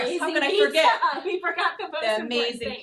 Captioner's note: both laughing